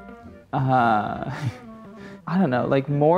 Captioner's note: laughing